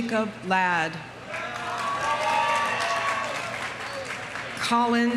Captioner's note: audience cheering; audience applauding